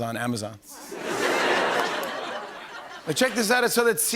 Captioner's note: laughter